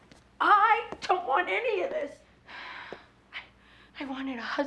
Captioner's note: sighs